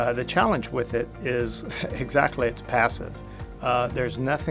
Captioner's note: chuckles